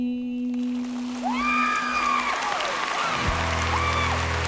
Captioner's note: cheering and applause